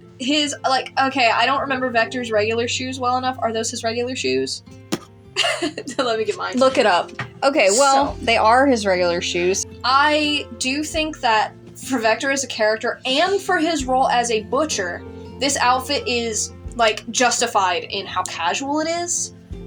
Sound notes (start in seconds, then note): 5.3 laugh